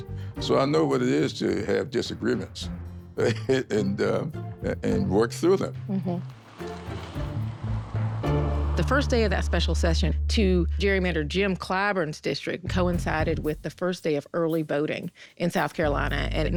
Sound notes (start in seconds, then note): 3.2 laughing